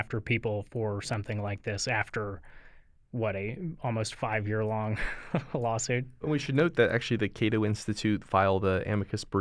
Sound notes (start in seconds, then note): 4.9 chuckle